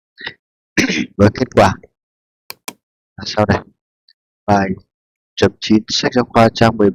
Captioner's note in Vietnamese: hắng giọng